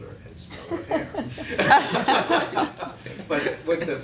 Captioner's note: laughing